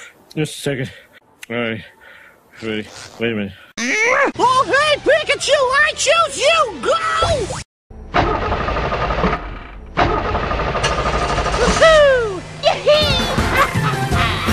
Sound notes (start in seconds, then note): 9.9 making car sounds